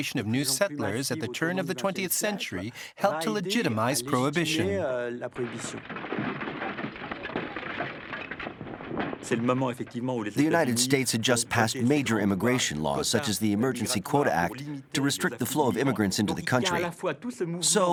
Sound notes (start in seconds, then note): 5.4 glass shattering